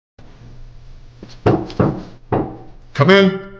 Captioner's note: knocking